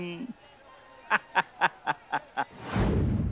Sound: laughing

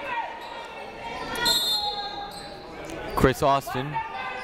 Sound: whistle blowing

